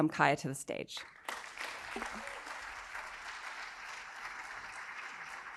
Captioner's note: audience applauding